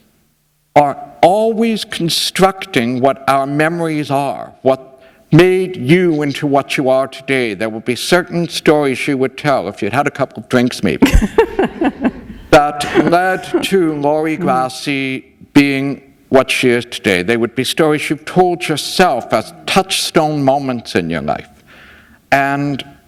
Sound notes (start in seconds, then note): 11.0 laughter